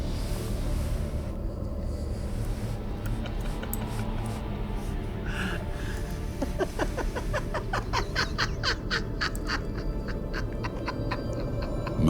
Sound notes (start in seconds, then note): 0.1 suspenseful music; 4.3 man laughs